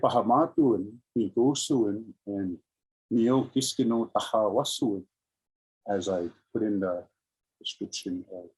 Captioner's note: speaking in indigenous language